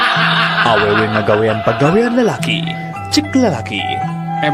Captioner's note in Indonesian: tertawa